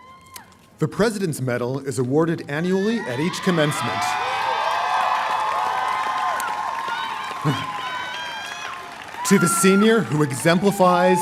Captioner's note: applause